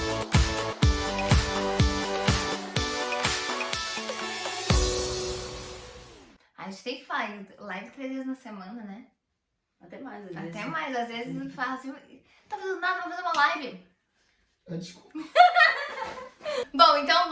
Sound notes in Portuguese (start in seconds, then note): 15.1 risos